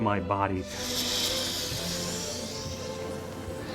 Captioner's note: creature hisses